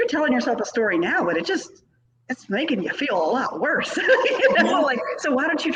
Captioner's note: laughs